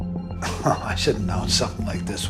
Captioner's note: scoffs